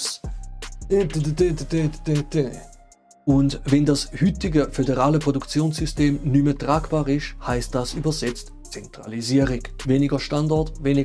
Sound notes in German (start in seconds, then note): 1.8 Beatboxes in desperation